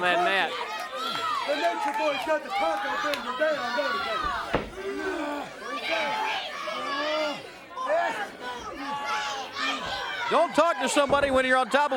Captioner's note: crowd chatter